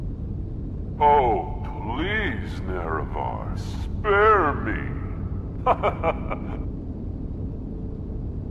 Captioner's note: laughing